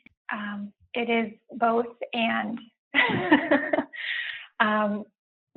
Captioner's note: laughs